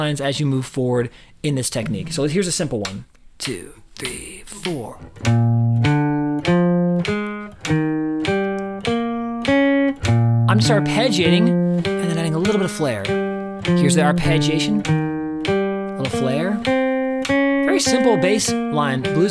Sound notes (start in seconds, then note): 3.0 metronome begins clicking; 5.2 guitar playing blues